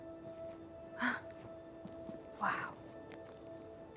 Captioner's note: gasps